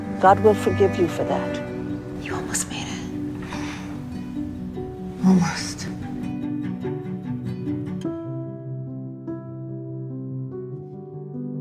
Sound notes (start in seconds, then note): 2.3 voiceover; 2.6 whispering